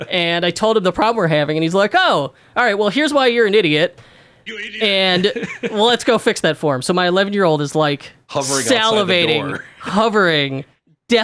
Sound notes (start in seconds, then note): 4.4 laughs